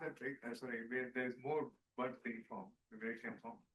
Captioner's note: speaking faintly